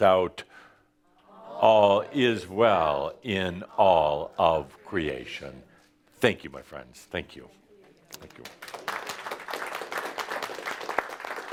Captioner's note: audience applause